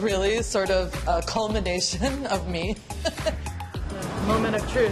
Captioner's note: laughs